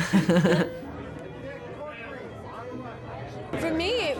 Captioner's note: laughter